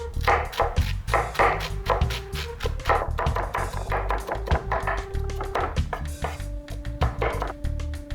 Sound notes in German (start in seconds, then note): 1.8 Messer hacken